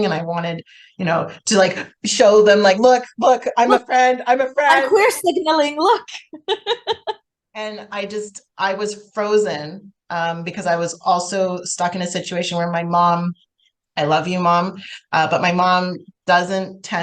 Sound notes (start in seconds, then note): 6.2 laughs